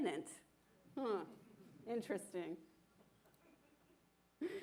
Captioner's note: laughter